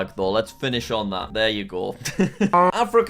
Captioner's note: laughs